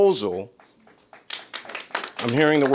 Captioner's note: applause